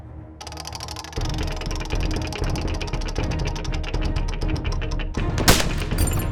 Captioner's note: wheel spinning; cocks rifle; gunshot; glass shatters